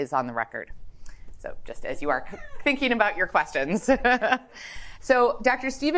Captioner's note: laughs